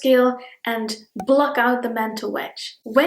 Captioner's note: bubble pops